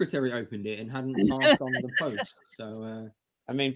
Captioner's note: laughter